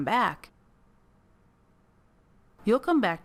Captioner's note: silence